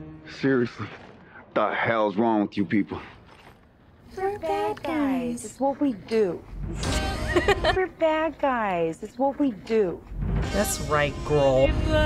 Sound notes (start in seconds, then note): 6.7 giggling